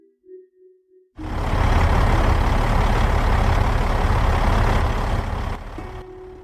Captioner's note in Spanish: Sonido de camión, otra vez